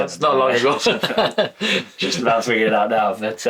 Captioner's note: laughs